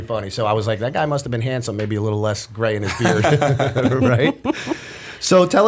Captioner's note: laughter